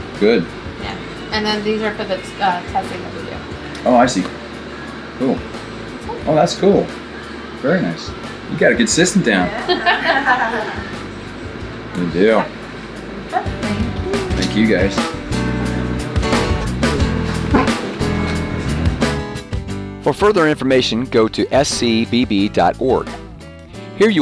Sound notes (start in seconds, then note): 9.4 women laughing; 15.5 mid-tempo music